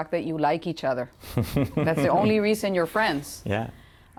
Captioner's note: laughter